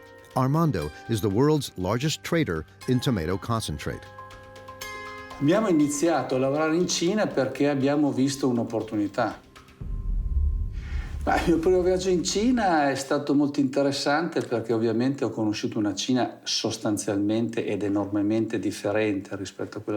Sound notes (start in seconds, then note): 5.4 speaking in foreign language